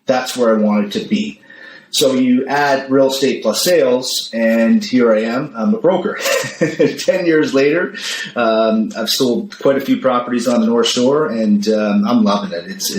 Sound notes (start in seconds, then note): 6.1 laughs